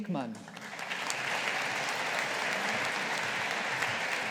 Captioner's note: audience applauding